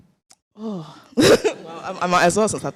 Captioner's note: chuckles